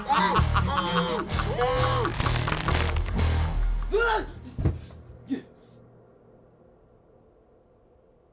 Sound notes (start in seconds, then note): 3.8 screaming